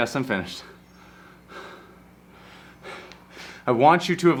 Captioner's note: panting